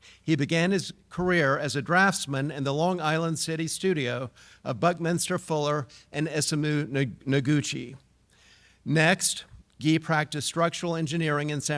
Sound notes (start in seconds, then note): none